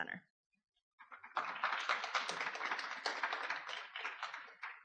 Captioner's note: audience applause